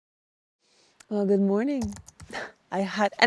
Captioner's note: keys clacking